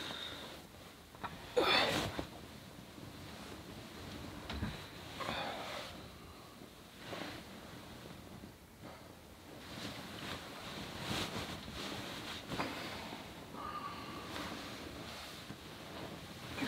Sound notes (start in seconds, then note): 0.5 groans